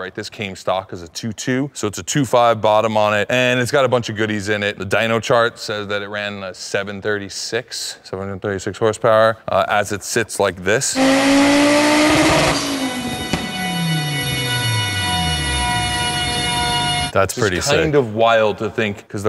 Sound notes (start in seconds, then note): 10.9 car engine roaring; 13.0 dyno wheels droning